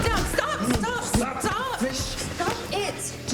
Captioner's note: people chattering